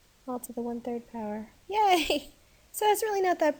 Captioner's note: laughs